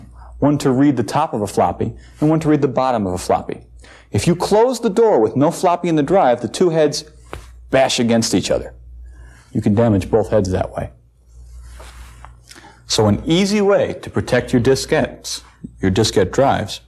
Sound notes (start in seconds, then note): 7.3 smack